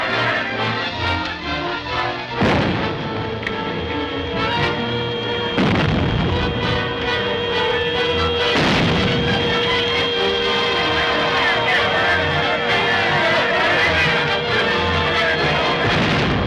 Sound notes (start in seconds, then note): 2.2 bombs boom; 10.8 people shout